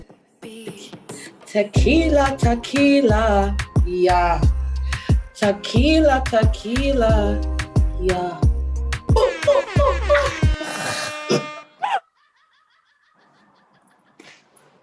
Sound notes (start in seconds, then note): 9.1 laughing; 9.1 makes airhorn and gun sounds